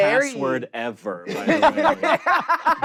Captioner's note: laugh